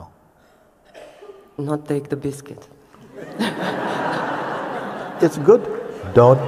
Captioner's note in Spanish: risas